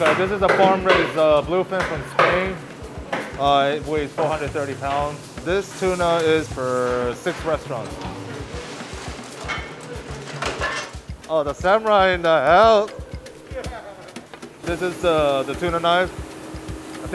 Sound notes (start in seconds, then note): 7.2 metal clattering